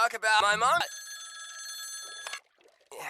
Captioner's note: phone Rings